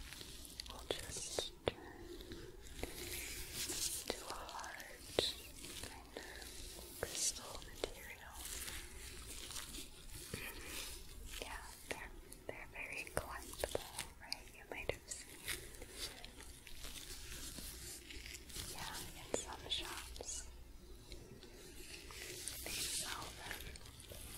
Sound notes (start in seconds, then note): 0.0 glove sounds; 9.0 sticky sounds; 16.1 sticky sounds; 24.1 glove sounds